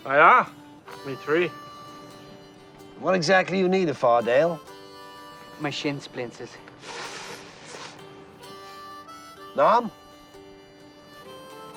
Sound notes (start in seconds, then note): 6.6 hissing